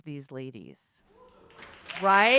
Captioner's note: audience applauding